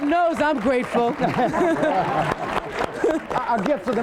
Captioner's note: laughs